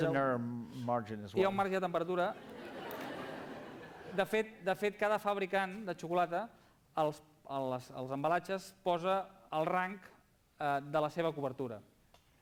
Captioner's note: non-english speech